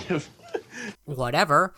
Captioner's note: chuckles